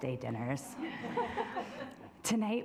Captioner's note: assembly laughing